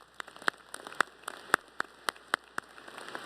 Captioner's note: applause